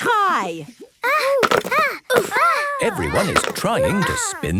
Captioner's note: all grunting